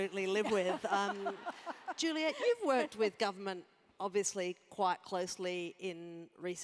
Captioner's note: laugh